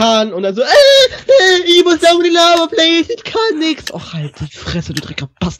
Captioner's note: higher voice